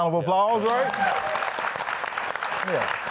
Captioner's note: audience applauding